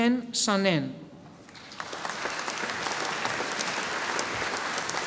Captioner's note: audience applauding